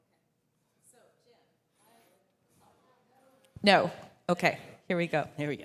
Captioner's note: quiet speaking